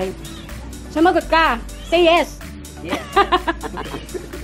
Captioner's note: laughs